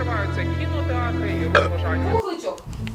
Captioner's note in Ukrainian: звук відригування